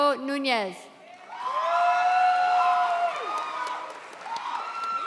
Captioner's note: audience cheers